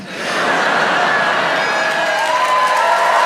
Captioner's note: audience laughs; audience applauds and cheers